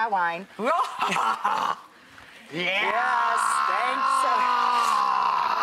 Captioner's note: evil laugh